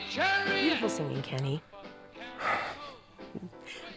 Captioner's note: sighs